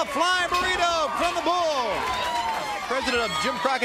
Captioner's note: crowd cheering